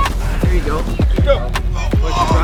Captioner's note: shouting